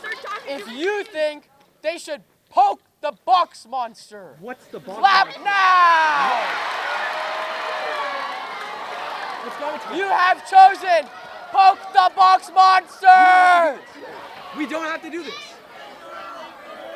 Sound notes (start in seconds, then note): 5.8 applause